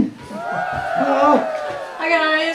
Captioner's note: cheerin g